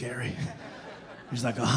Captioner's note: audience laughing